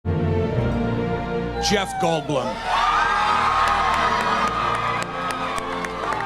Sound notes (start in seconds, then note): 1.6 crowd cheers & applauds